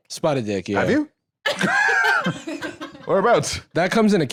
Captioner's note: laughs